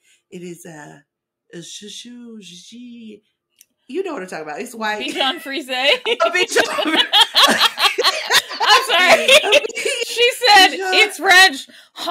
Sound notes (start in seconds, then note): 7.4 mocking French noises